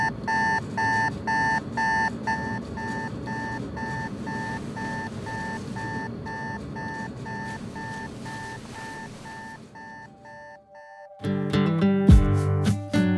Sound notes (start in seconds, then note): 1.2 alarm clock; 2.6 air conditioner rattling; 2.6 alarm clock